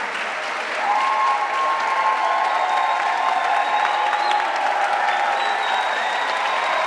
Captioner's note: audience continues clapping; audience continues cheering